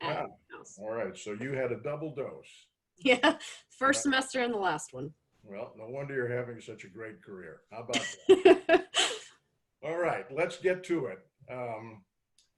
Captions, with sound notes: >> All right. So you had a double dose? >> Yeah, first semester and the last one. >> Well, no wonder you're having such a great career [laughs]. How about that? All right, let's get to it.